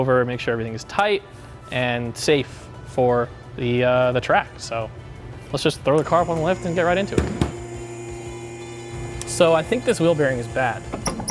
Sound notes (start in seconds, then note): 7.9 lift whirring